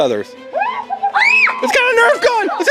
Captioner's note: screams